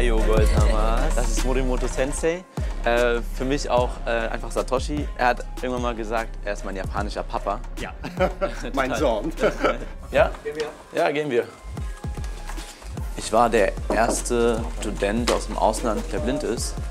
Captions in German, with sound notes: Ds ist eine Sensi, für mich auch einfach Satoschi. Er hat immer gesagt, er ist mein japanischer Papa. Mein Sohn. (lachen) Ja, gehen wir. Ich war der 1. Student aus dem Ausland, der blind ist.